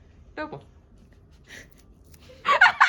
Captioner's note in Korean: 실실 새어 나오는 웃음